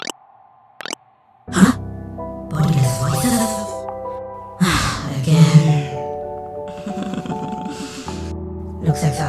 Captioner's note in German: seufz; nervöses Lachen